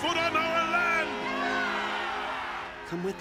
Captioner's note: cheering